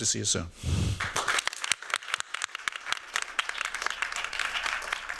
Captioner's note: applause